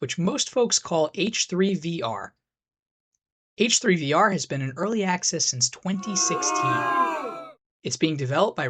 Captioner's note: booing noises